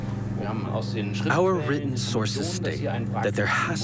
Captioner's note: in German